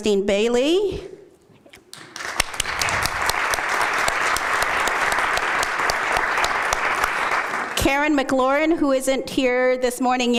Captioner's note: applause